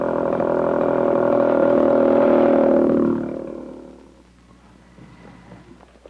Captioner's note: sonido de motocicleta